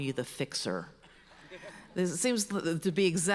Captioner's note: audience laughs